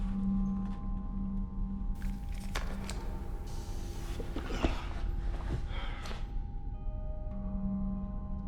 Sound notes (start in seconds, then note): 2.0 air hissing